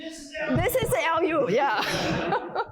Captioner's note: laughter